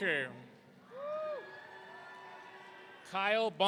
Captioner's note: audience cheering